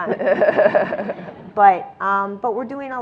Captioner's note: and audience laughs